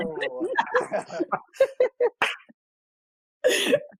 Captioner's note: laughs